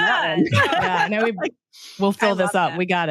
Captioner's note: laughs